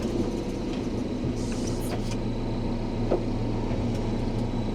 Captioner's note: vehicle humming